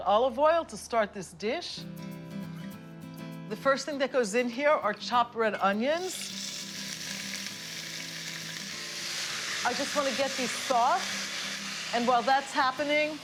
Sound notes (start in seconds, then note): 5.9 sizzling